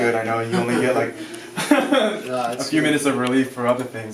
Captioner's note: laughs